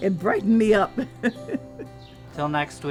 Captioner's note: laughs joyfully; chuckles